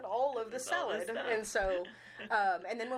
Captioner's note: chuckling